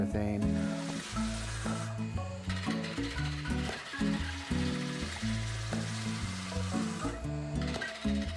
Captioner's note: machine whirring